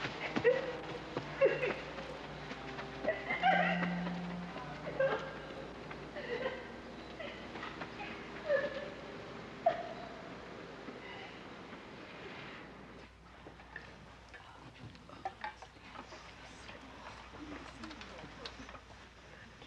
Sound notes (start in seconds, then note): 0.2 crying